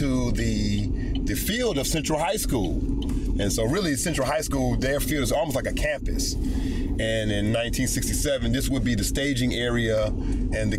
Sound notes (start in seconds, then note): none